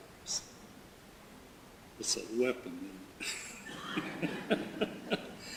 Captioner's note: laughs